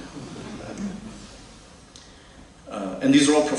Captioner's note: laughter